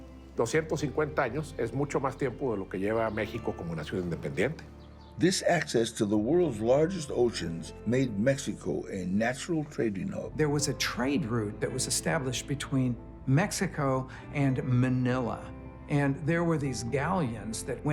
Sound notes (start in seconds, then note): 5.1 in English